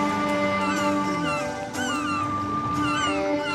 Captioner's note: cawing; irish music